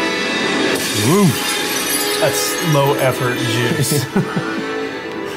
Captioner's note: laughs